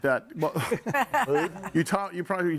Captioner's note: group laughs